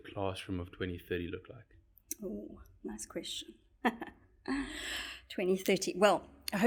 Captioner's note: laugh